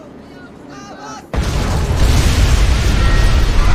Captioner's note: loud explosion